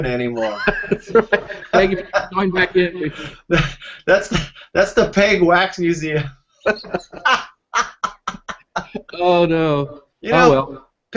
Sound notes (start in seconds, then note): 2.7 laughing